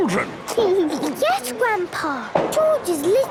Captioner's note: giggles